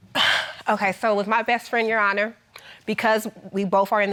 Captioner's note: exhales